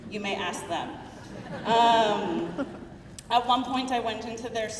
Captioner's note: crowd laughing